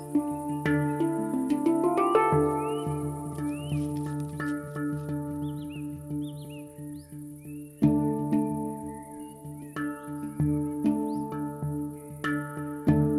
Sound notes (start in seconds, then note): 3.6 rustling noise of lime bast against chert